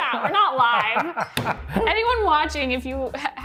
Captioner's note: laughing